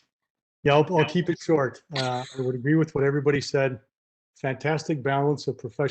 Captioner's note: laughs